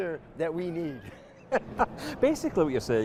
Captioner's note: laughs